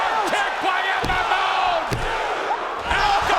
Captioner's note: crowd exclaims